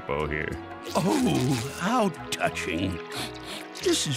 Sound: sniffling

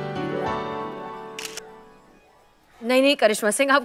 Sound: camera clicks

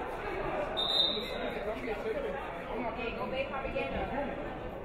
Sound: referee whistles

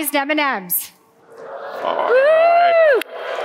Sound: audience cheering

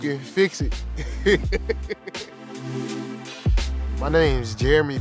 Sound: laughs

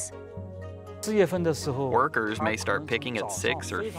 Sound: speaking Chinese

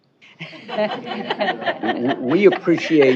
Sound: laughing

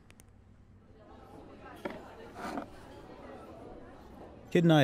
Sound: crowd chats

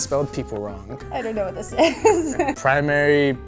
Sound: laughs

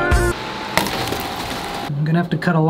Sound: fan raving

